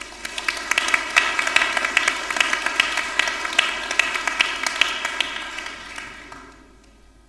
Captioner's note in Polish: oklaski